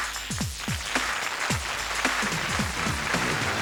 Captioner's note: applause